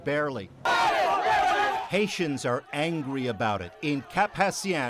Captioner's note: angered shouting